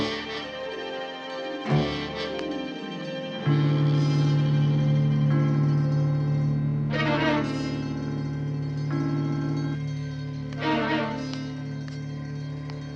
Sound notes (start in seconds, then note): 3.2 clock chiming